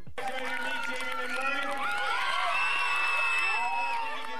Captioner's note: audience cheering